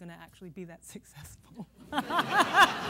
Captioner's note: laughter